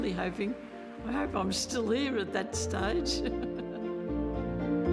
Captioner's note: laughs; gentle music